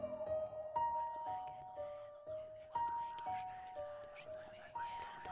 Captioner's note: voices whispering